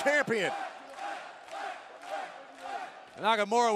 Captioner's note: crowd cheering